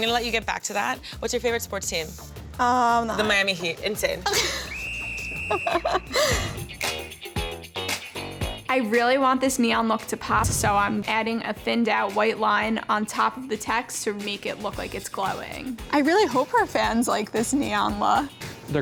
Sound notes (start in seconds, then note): 4.1 laughs; 4.6 whistle blows; 6.5 upbeat funky music